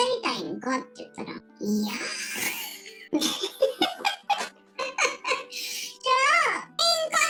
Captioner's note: laughs